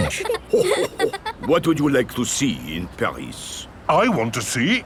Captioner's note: chuckles